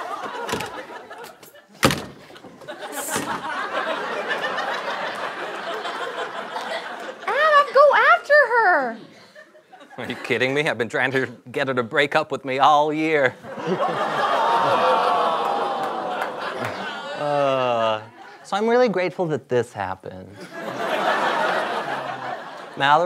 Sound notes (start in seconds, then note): 0.0 audience laughter; 0.2 door slamming; 13.4 audience laughs and groans